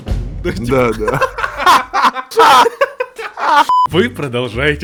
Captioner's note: laugh